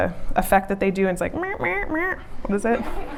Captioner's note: auto-tune noise